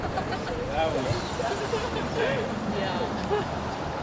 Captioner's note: sonido de coches